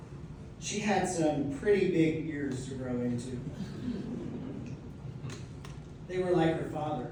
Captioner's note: laughter